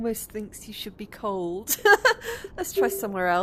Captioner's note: laughing